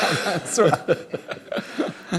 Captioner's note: laughter